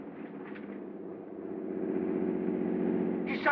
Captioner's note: engine Slows